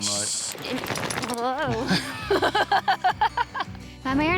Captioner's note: laughs